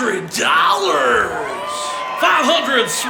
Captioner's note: crowd cheers